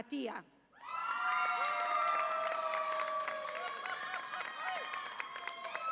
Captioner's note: audience applauds and cheers